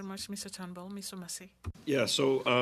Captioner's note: speaking French